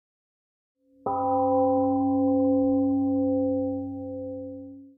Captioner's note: temple gong rings and fades